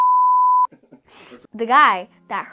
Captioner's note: laughing